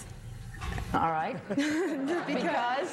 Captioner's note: laughter